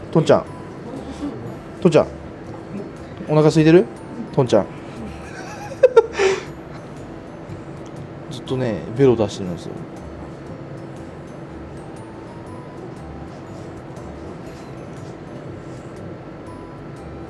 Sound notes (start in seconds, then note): 7.0 laughs